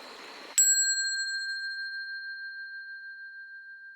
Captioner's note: bell ringing